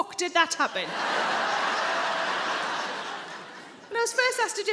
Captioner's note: audience laughing